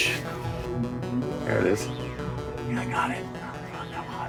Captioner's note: whispering